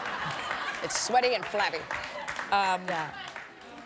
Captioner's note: laughter